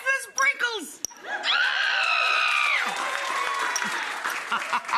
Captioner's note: audience laughs; Rachael screaming; Rachael laughs